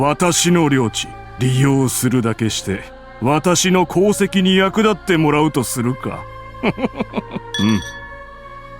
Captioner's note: giggle